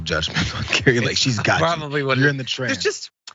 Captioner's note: laugh